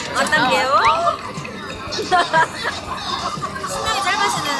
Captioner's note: drooling